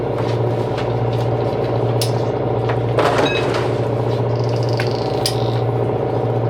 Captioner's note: motor whirring